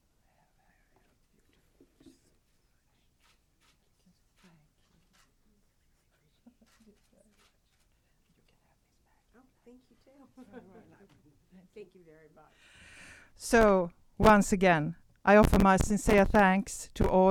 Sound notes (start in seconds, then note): 10.3 laughing